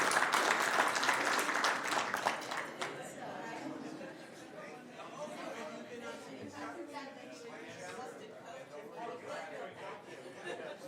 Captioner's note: applause